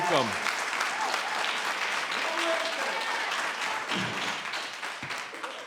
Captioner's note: cheering and applauding